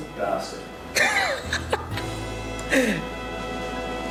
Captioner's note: laughs